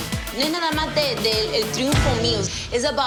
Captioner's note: speaking Spanish